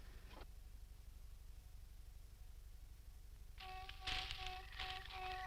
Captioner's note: pulsing tones